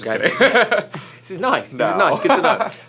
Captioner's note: laughter